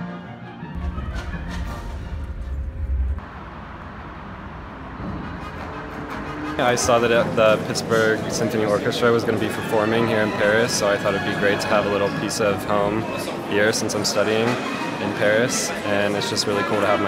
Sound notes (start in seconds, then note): 0.3 bus rumbling; 3.4 wind blowing